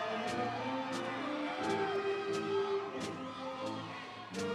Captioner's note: audience cheering